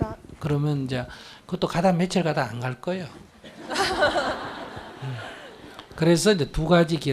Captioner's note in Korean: 청중/질문자웃음